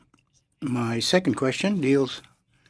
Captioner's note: speaking in French